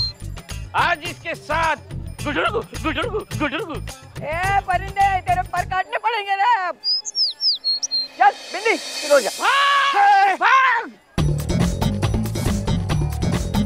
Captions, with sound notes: Today we want to coo coo with her. Hey, bird! Now we'll need to cut your wings! [bird squeaking] Come on, Binny. Start! - Brother! Brother! - Hey! [comical music]